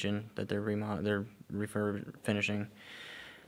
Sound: stutters

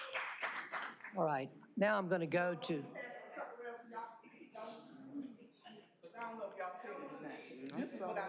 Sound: applause

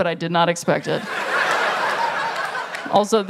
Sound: laughter

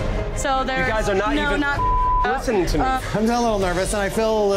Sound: beeping

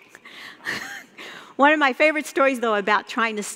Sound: laughing

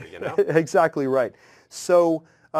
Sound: laugh

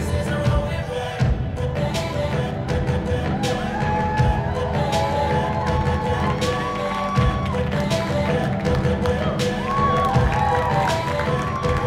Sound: bursts of cheers and applause

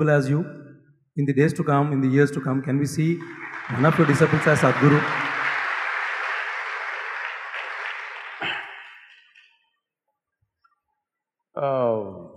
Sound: applause

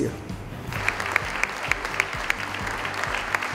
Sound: applause

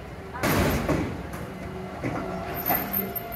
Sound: loud bang

